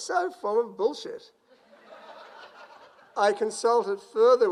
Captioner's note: crowd laughs